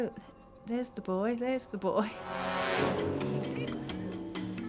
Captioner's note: chuckles